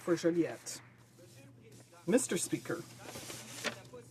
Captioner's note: some Applause